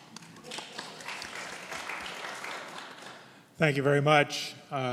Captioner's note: audience clapping